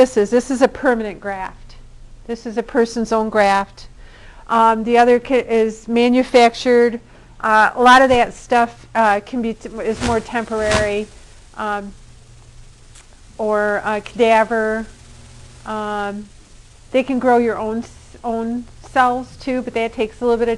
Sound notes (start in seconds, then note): none